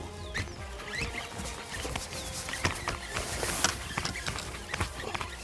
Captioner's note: reel spinning